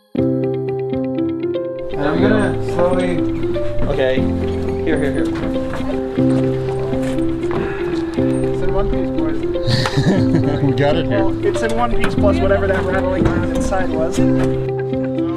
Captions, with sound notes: >> I'm going to slowly. >>Okay. >>Here here here. [laughter] >> You got it here. >>It's in one piece, plus whatever that rattling around inside was.